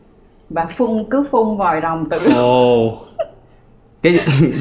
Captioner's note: throwing up